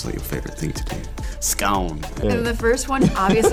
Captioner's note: speaking na'vi